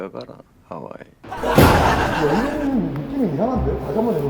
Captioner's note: slam